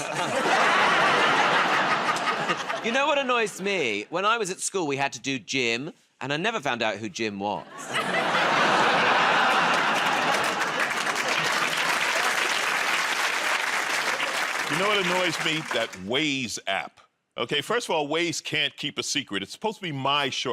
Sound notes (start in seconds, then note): 0.0 laughter; 7.6 laughter; 11.0 cheers and applause